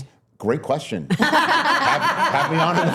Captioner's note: laughing